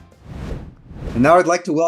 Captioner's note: air whooshing